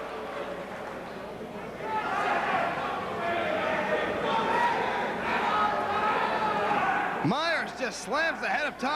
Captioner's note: crowd chatter